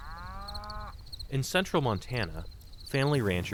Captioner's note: voice-over